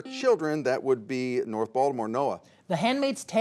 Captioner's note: buzzer sounds